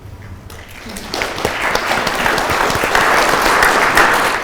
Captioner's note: crowd applauding